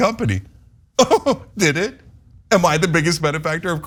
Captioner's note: laugh